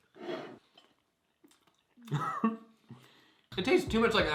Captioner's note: both chewing